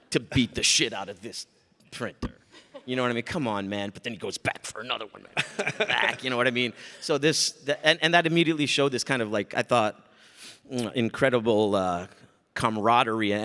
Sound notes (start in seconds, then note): 5.3 Mike laughs